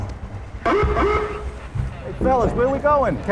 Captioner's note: police sirens